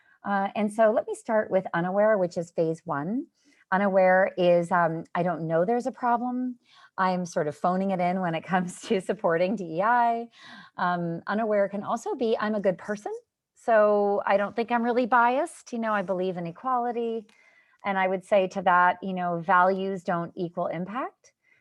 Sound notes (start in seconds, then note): 8.8 laughter